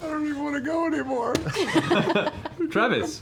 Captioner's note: laughter